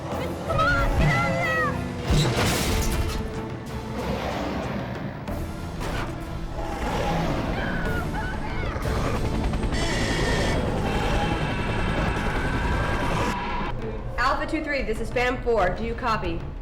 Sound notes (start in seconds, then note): 5.7 growling